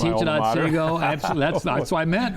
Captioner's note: laughs